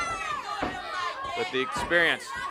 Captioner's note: crowd chatter